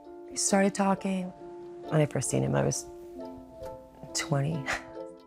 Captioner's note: chuckles